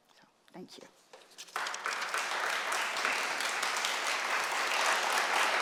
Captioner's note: applause